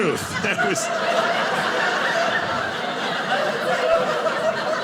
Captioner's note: audience laughing